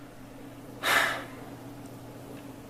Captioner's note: sighs